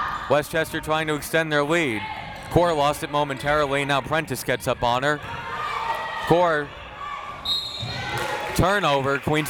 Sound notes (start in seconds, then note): 7.4 whistle tweeting